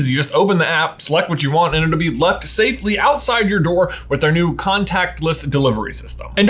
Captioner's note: none